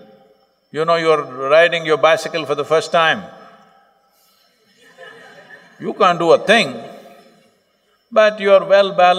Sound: laughter

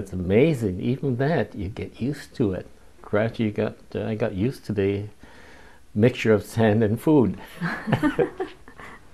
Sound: laughs

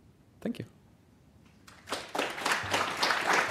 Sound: applause

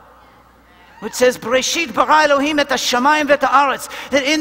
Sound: Hebrew

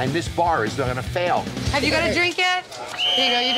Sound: whistle

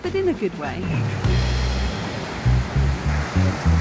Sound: water running

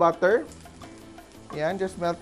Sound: sizzle

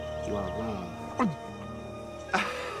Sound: grunts

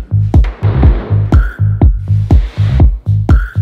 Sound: wood thuds

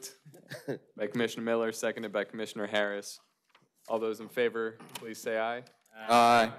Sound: laughter

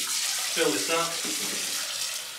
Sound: water splashing; water flowing

